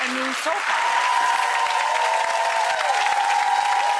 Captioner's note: audience clapping